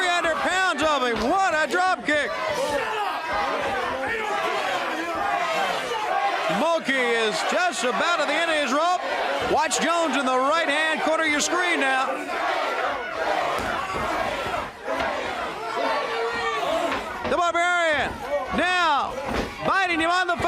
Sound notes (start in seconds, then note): 4.0 crowd chatter; 13.8 crowd chatter